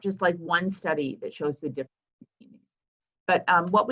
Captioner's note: audio cuts out